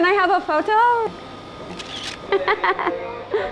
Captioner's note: sound: camera shutter; laughing